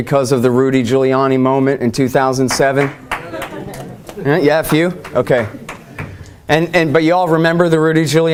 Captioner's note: audience cheers